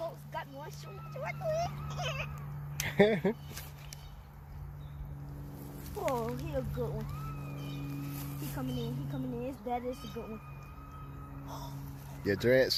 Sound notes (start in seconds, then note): 2.8 laughs; 2.8 man laughs